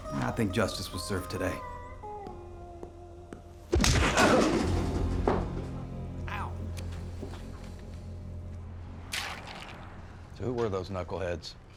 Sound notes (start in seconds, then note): 3.6 punch, groan; 9.1 ice sloshes